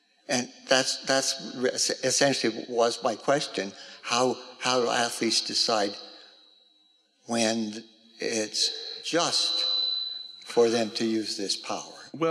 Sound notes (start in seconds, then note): none